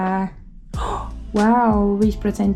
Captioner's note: gasp